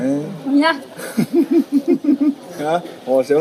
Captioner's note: SOON laughs